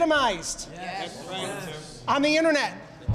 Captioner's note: crowd